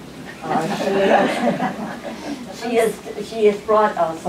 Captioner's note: laughter